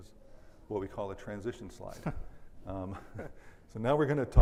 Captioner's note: laughs